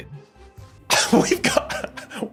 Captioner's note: laughs